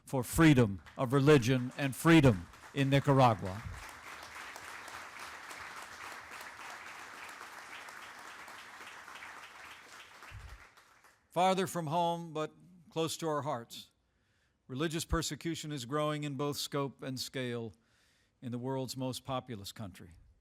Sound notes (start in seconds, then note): 4.6 applause